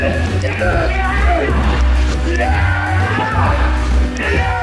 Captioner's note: both yelling